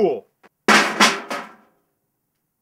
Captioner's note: game clatters in trash can